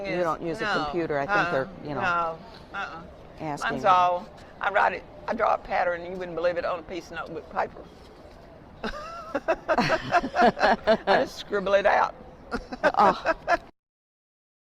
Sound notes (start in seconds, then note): 3.3 laughter